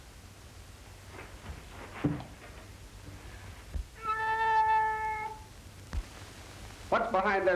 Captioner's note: meowing